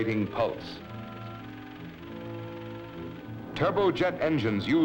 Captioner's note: machine ticking; upbeat music